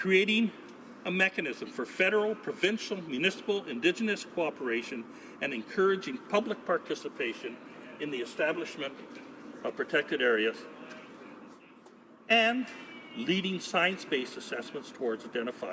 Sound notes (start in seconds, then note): none